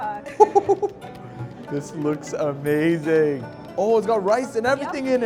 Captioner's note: laughs